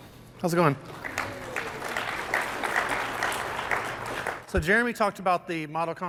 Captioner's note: applause